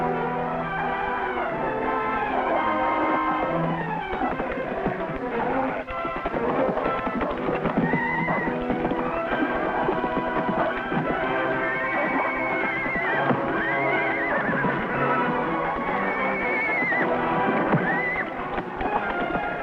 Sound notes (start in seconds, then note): 0.1 dramatic music; 13.1 Champ whinnying